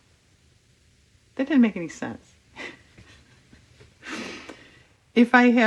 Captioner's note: laughs